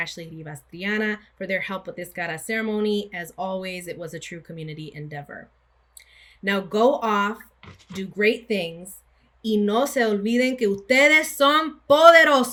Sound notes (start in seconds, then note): 9.8 speaking spanish